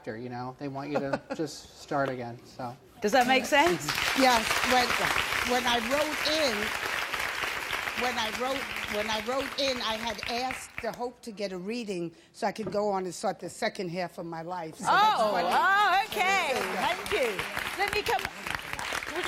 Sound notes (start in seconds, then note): 3.6 audience applauding